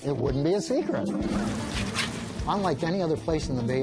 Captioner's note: scraping